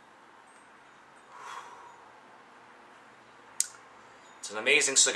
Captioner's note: exhales deeply